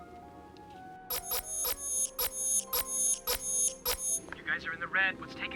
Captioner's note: beeping